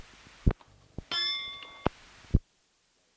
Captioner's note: bell Sound